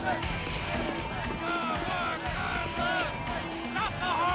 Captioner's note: fans shouting